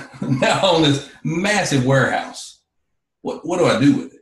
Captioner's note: laughs